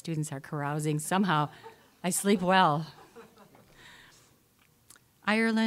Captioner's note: audience laughing